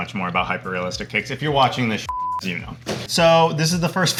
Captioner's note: beep